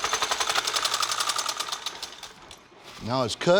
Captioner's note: clanging stops